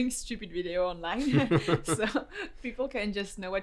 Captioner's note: laughs